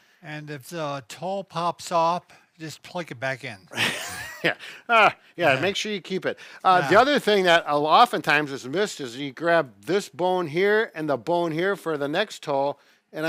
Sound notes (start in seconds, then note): 3.7 laughs